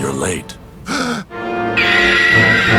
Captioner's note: gasp